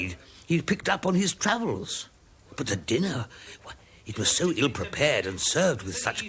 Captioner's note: speaking Spanish